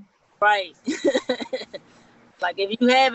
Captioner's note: laughing